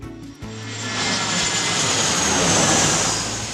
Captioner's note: sound of airplane